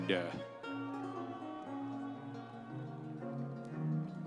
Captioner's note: audience cheering; energetic music continues